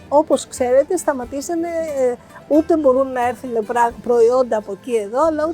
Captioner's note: speaking in foreign language